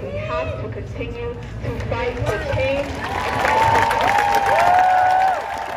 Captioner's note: crowd cheers words inaudible